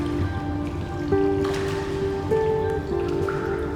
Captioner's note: water splashing